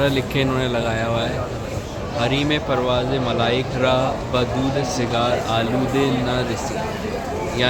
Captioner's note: in Farsi/Persian language